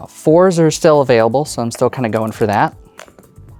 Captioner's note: dice rattling; dice rolling